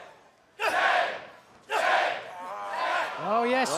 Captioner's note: fans chanting